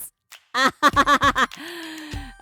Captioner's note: laughs